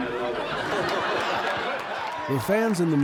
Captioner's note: audience laughing